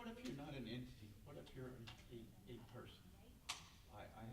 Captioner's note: stammers